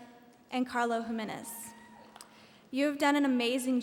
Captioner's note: audience cheering